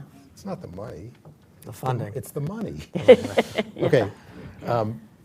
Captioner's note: laughter